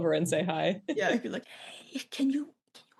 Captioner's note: whispers